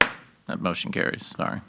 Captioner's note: gavel bangs